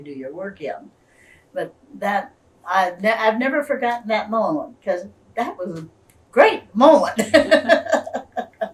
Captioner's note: laughs